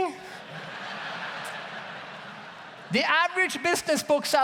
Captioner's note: audience laughs